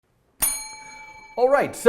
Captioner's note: bell dinging